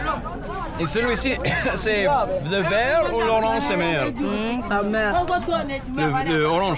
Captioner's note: both speaking in foreign language